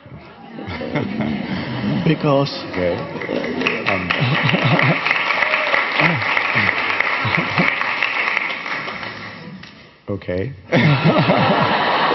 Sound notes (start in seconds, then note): 0.3 audience laughing; 5.9 audience clapping